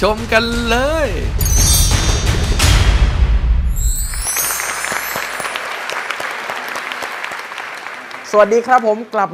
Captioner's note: applause